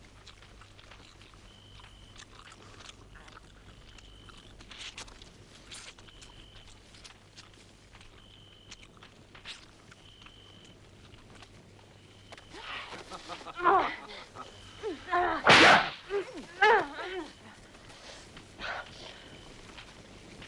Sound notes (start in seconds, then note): 12.5 Torente laughing; 13.1 wives grunting; 15.4 whip cracks